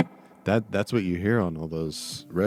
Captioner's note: beat boxing